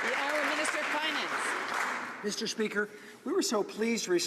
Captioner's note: some Applause